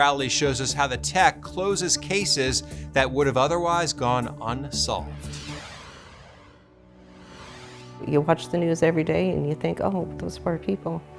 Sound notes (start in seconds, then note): 4.8 graphic whooshing